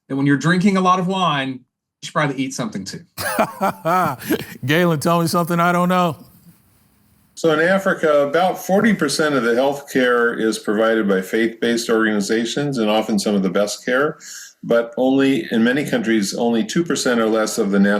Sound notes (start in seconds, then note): 3.2 laughs